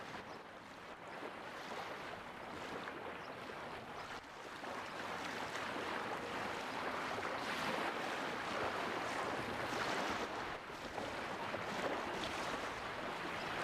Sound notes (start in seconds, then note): none